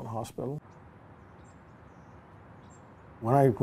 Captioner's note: birds chirping